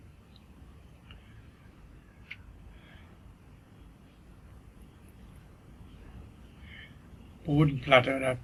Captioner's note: sighs